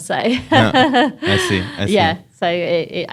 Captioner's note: laughs